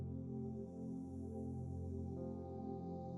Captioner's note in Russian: none